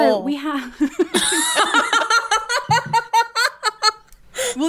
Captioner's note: laughing